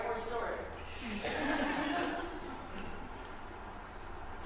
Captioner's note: laughter